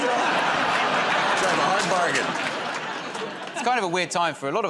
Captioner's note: laughter